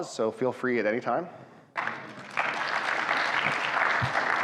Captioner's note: audience claps